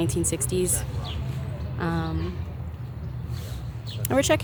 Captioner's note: birds singing